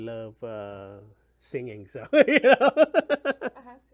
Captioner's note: laughs